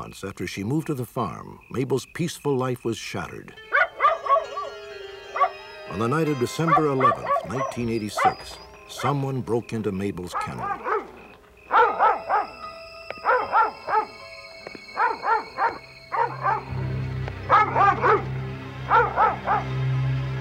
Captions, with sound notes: after she moved to the farm, Mabel's peaceful life was shattered. [barking] On the night of December 11, 1986, someone broke into Mabel's kennel. [barking and growling]